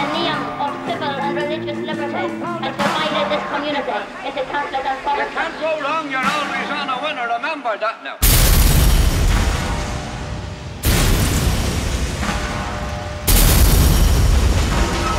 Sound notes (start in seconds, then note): 10.8 glass smashes